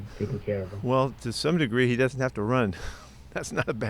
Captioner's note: laughs